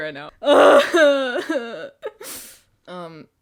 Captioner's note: crying